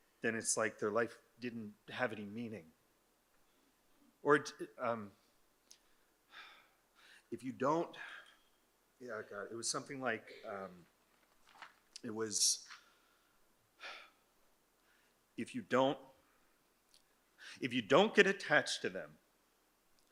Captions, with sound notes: then it's like their life didn't have any meaning. Or, um, (sighs) if you don't... Yeah, I got it, it was something like, um... It was, (sighs) if you don't, if you don't get attached to them,